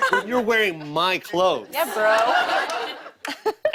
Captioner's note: laughter